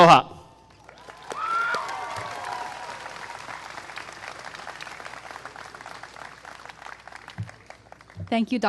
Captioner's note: applause